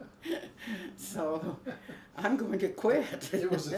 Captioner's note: laughs